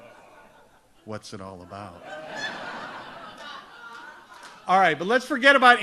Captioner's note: audience laughs; audience laughs